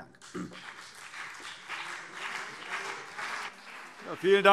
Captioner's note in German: Beifall CDU und BÜNDNIS 90/DIE GRÜNEN